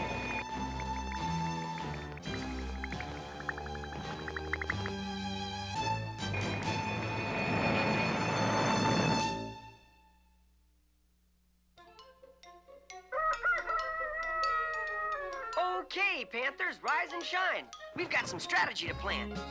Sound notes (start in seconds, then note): 13.1 crowing